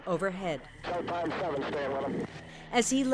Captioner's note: radio transmission